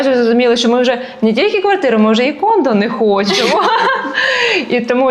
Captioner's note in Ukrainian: сміх